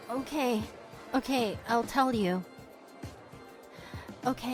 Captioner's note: deep breath